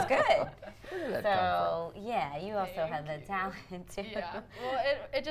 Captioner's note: everyone laughs